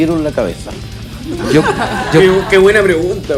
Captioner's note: laughs